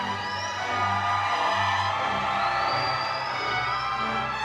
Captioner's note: crowd cheering